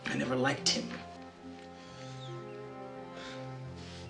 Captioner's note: sighs